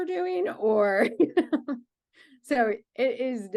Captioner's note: laughing